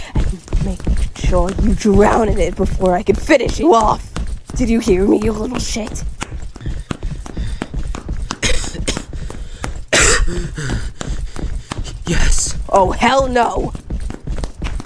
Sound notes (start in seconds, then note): 0.0 Miss Circle inhales again; 6.6 Cosmic pants, loosing breath; 8.4 Cosmic coughs; 10.0 dying noises